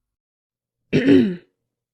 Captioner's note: clears throat